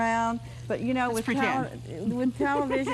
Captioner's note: laughs